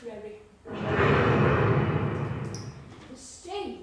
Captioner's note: thunder rumbling